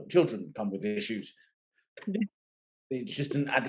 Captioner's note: laughing